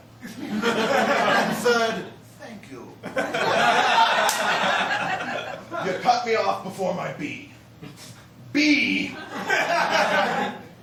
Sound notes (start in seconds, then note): 3.0 laughter; 9.1 laughter